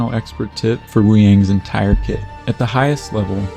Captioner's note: smack